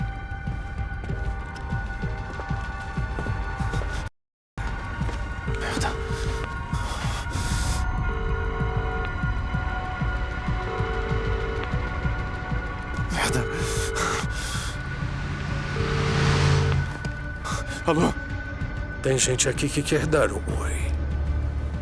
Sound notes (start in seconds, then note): 5.6 line ringing; 5.6 cell phone beeps